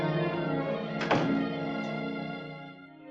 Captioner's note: door thuds